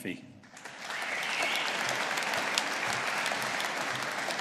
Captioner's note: audience applauding